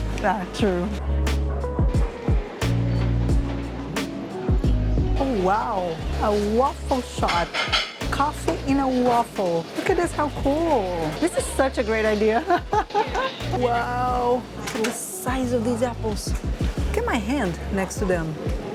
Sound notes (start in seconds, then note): 12.4 laughs